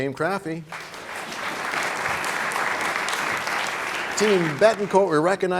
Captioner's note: applause